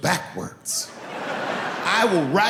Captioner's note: laughing